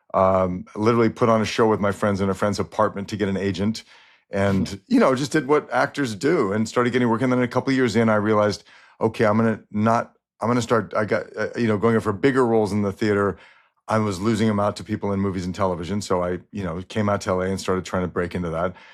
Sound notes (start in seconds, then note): 4.4 chuckles